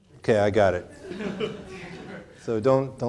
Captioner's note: audience laughing